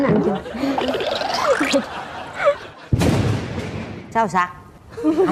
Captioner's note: laugh